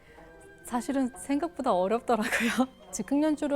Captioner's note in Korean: 옅은 웃음